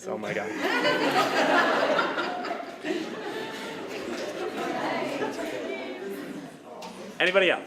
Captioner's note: laughter